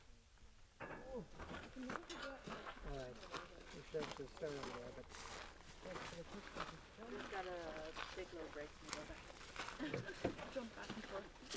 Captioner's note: sounds of hand rakes clanging, footsteps crunching in grass, small talk